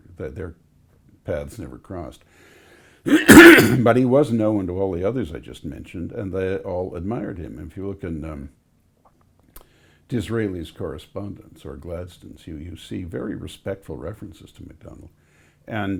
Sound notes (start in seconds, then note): 3.0 coughs